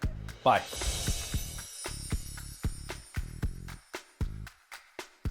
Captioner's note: chimes tinkle